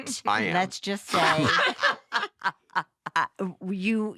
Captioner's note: laughter